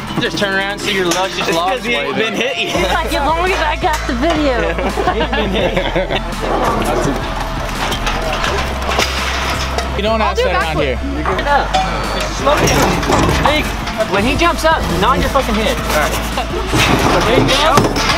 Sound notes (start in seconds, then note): 4.0 laughing; 4.2 all laughing